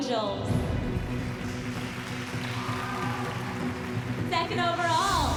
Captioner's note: cheering and applause